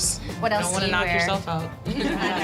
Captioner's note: laughter